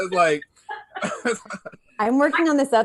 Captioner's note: chuckles